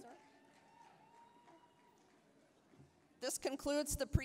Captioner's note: applause, cheering